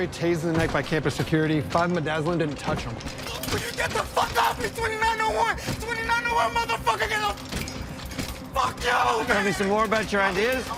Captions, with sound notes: tased in the neck by campus security. Five midazolam didn't touch him. (YELLING) Will you get the fuck off me? 2901! 2901! Motherfucker, get off! Fuck you! Want to tell me some more about your ideas?